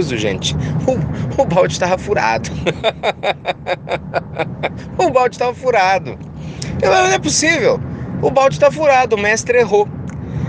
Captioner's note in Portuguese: risos